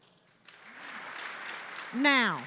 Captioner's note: audience applauding